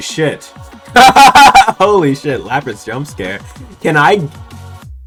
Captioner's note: laughter